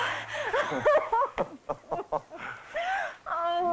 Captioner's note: laughter